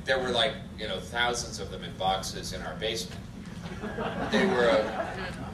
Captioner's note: audience laughter